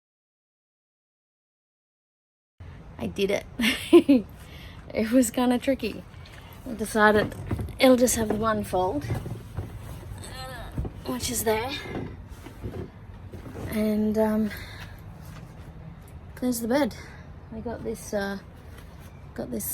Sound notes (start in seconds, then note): 3.6 laughs